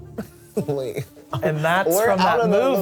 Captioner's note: laughs